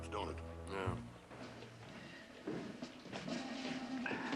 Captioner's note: footsteps approaching